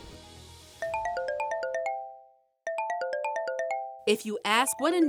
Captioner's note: phone ringing